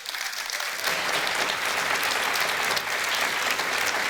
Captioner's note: applause